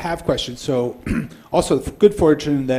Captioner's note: coughs